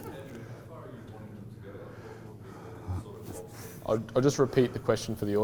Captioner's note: audience murmurs